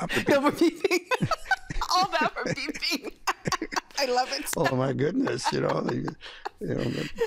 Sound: laughing

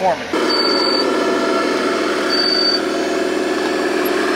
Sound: engine runs

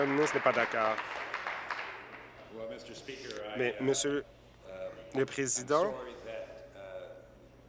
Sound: applause

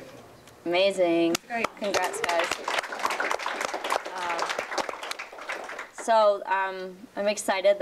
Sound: applause

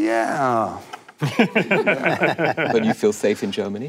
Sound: panel laughing

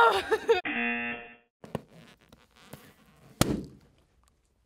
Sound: buzzer; balloon squeaking; balloon popping

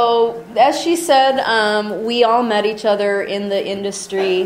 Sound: voiceover

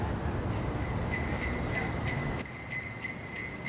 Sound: bells jingle on the dog's paws

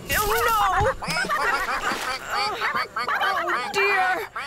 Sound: frantic Quacking; splash!

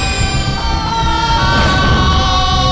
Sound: aahhh!

